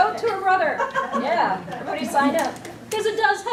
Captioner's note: audience laughs